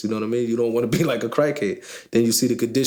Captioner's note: chuckling